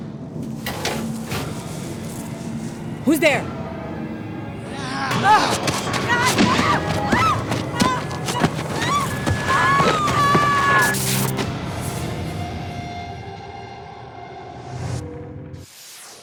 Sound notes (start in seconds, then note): 0.1 rustling; 4.5 creature growling; 4.7 screaming